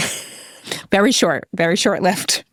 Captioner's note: laughing